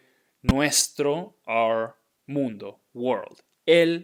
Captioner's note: speaking in Spanish